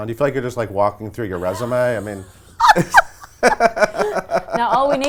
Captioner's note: laughs